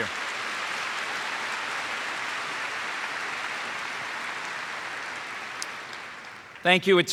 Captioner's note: applause